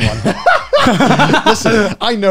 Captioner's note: laughs